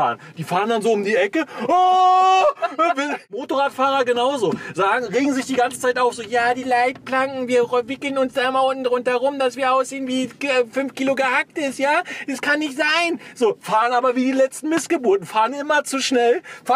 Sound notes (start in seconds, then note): 1.6 screams; 2.2 laughs